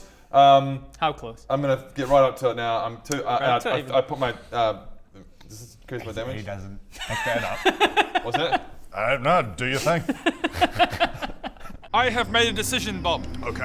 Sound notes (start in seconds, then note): 7.6 laughs; 9.6 life-threatening DM giggles